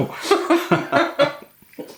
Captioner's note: laffin again